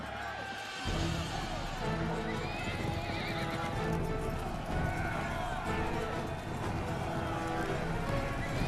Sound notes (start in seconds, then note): 2.9 crowd cheering